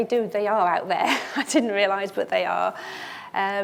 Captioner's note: chuckles